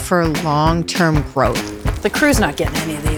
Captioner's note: sizzling